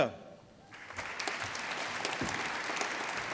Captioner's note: applause